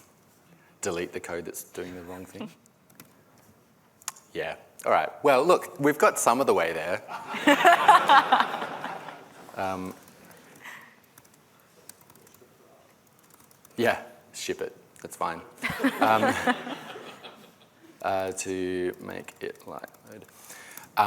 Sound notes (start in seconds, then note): 8.8 laughter